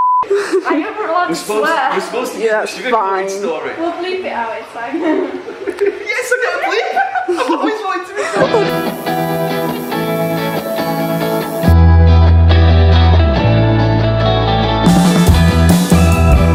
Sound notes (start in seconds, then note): 8.1 laughing; 8.4 upbeat guitar music